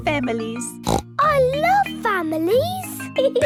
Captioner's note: snorts